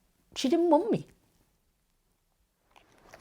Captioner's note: none